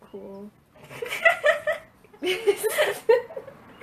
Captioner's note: laughs